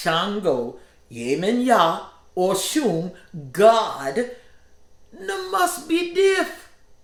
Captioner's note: speaking in foreign language